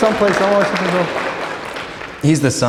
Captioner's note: applause